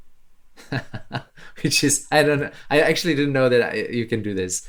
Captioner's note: chuckles